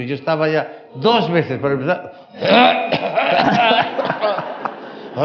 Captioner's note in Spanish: toses